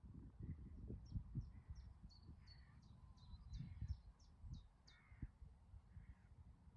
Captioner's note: birds singing